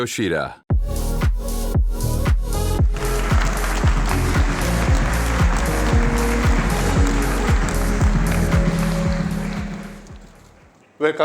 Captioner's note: applause